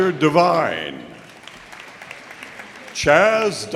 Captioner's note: audience applauding